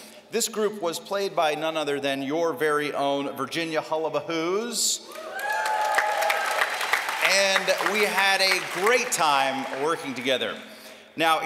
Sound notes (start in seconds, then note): 5.0 cheering